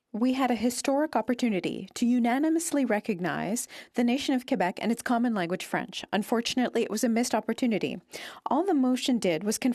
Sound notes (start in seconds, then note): 1.1 speaking French